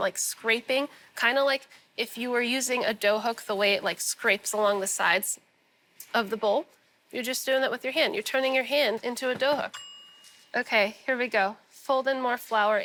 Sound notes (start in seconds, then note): 9.7 bell dings